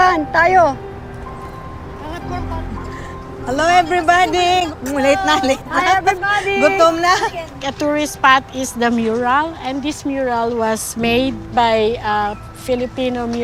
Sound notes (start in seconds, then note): 0.1 speaking foreign language; 6.0 speaking in foreign language